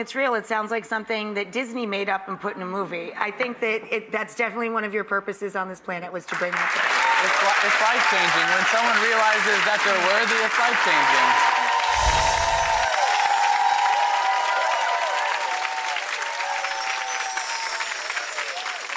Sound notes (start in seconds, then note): 11.6 applause; 11.6 audience cheers